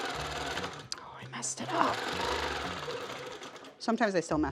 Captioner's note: upbeat energetic music; sewing machine whirring